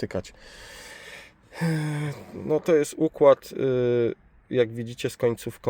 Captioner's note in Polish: wciągnięcie powietrza; westchnienie